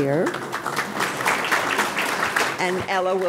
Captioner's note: audience applauding